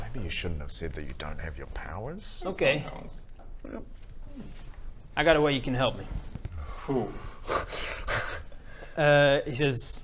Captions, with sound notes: Maybe you shouldn't have said that you don't have your powers? - Okay - I have some powers Yep... I got a way you can help me Ooh *unconvinced laugh* he says